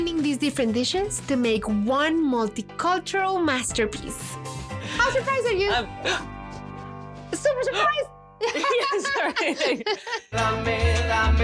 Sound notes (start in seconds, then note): 6.0 gasps; 8.4 laughs